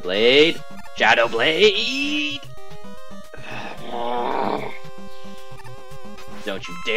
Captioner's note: grumbling